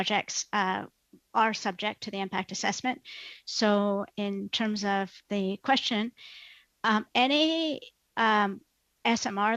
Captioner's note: speaking French